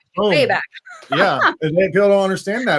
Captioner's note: laughing